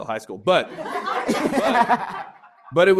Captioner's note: laughter